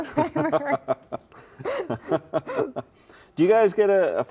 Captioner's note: laughing